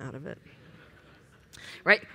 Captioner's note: laughter